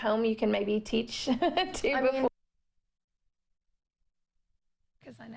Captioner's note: laughter